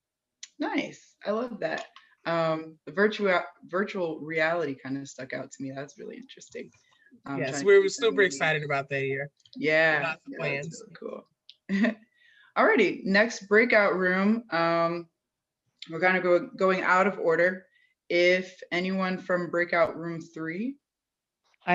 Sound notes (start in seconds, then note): 10.0 chuckles